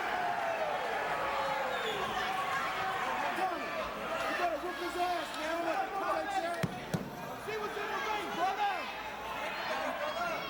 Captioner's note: crowd cheering